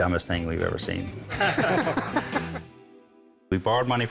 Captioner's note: laughter